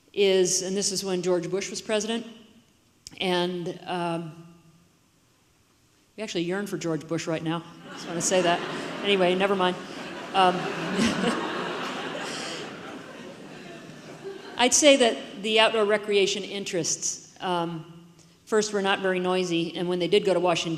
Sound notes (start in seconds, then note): 10.8 audience laughs